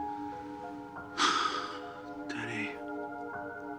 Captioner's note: sighs